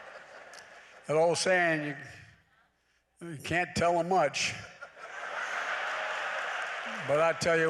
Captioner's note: laughter; laughter